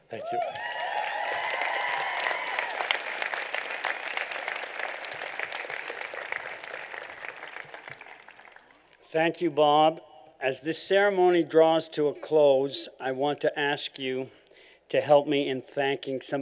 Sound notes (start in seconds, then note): 0.0 applause